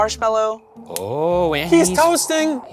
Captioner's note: torch clicking